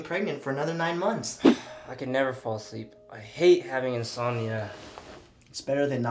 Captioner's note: sighing